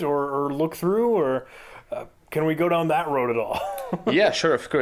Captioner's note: chuckling